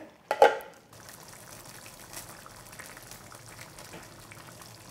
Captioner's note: stew bubbling